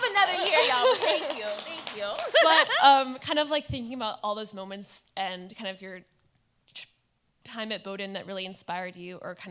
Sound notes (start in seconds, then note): 1.8 laughs; 2.6 audience applauds